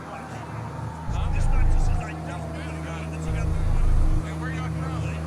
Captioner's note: crowd chattering